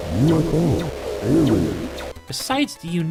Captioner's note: game audio